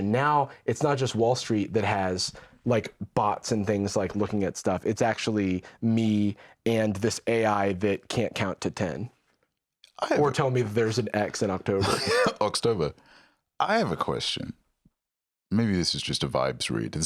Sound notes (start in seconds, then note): 12.1 laughs